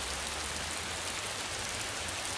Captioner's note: raining